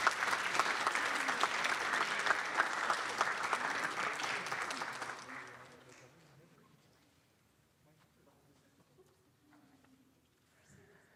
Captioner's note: applause